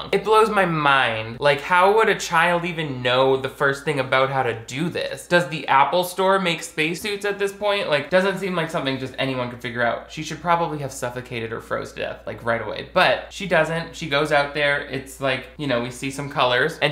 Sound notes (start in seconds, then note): none